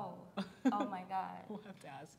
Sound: chuckles

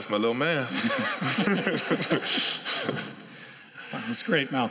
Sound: laughter

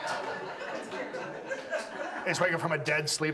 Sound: audience laughs

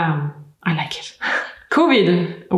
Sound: laughs

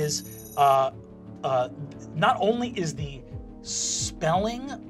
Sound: none

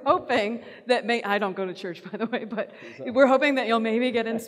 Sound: laughs

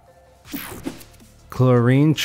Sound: image whooshing

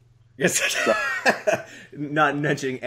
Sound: laughter

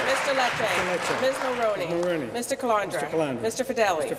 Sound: applause

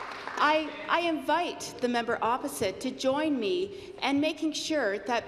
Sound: applause

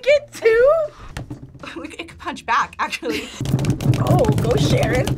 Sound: laughs

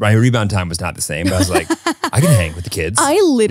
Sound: laughs

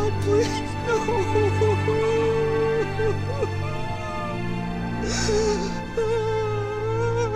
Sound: crying

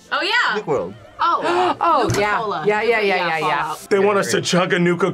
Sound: gasps

